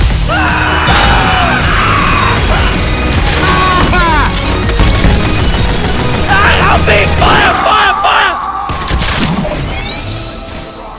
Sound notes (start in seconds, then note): 0.3 Flanker screaming; 3.1 crossbow being fired